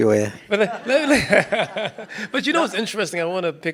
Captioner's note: participants laugh